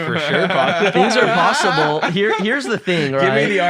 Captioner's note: laugh